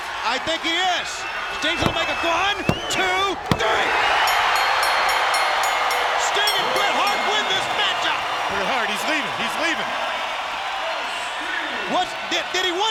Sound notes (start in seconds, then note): 4.1 crowd cheering; 4.2 bell dinging